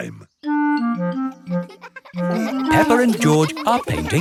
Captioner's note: children laughing